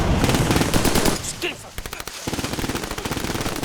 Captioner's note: gunfire